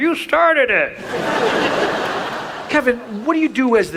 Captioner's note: audience laughs